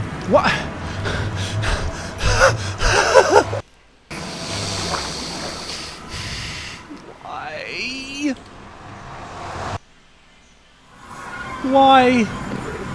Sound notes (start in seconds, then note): 0.2 flustered gamer rage; 4.0 snarls